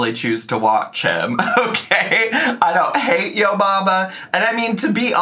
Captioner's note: laughs